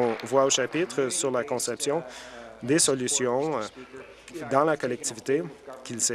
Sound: applause

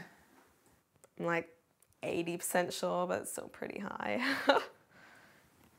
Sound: chuckles

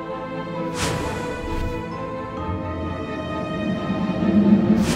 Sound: whooshing

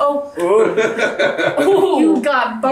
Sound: laughing

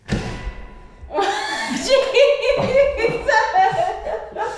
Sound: laughs

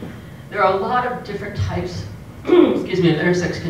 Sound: cough

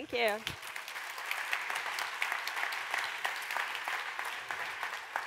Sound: applause

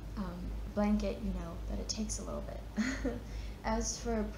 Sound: chuckles

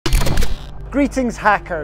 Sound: screen glitching

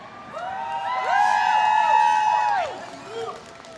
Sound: applause

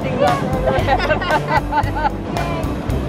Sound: photographers laugh

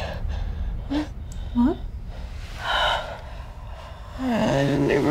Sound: B sighs

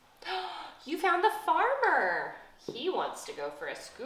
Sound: gasps

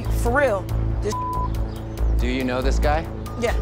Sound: beep

